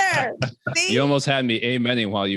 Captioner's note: all laughing